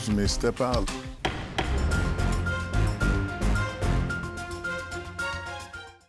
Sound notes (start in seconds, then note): 0.0 bright music; 0.0 dramatic music; 1.2 gavel thumping